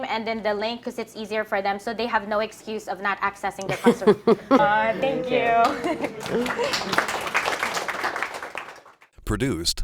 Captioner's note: clapping